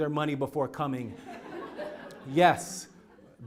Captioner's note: laugh